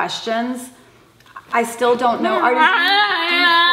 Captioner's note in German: schreit